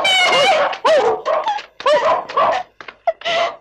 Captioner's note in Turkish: Köpek havlamaları